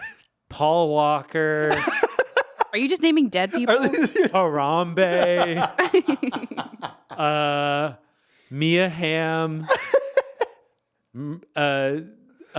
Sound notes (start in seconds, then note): 1.6 laughing; 5.1 laughing; 9.6 laughing